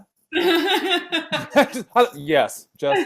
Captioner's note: laughing